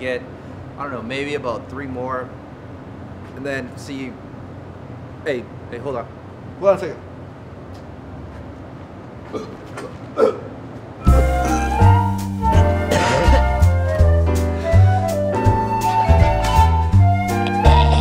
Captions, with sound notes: And I'm gonna try to get I don't know, maybe about three more. And then see, hey hold on, hold on a second. (loud coughing) (jazz music)